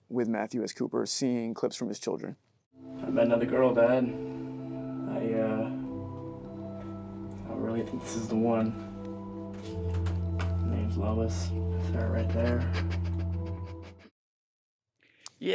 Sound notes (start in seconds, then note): 9.6 object rattles; 13.7 Cooper whimpers